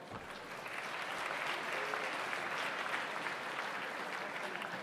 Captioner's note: audience applauds